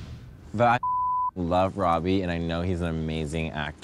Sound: beep

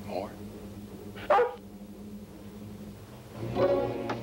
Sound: barks; ominous music

